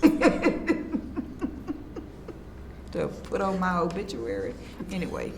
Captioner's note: laughs